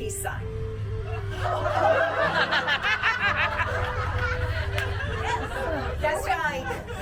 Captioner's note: laughter